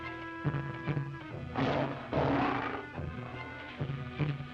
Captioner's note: lion roaring